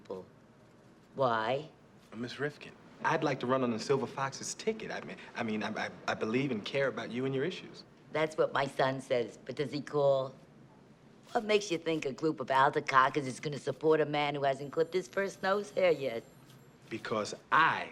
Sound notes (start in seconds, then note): none